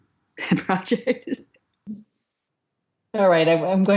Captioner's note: laughs